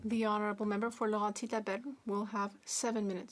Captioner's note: speaking French